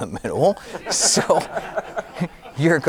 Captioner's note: audience laughing